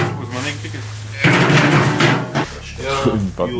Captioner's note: dropping metal sound